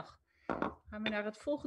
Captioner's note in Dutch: Voorzitter klopt met hamer